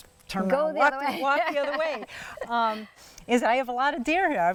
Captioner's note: laughing